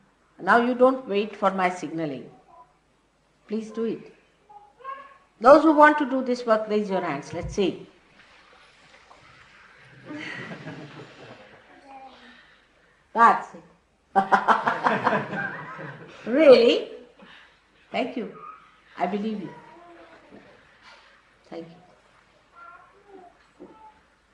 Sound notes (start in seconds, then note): 10.1 Shri Mataji laughs